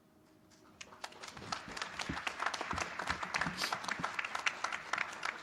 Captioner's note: applause